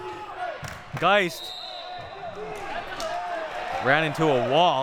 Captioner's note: whistle blowing